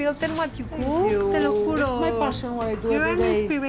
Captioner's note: speaking Spanish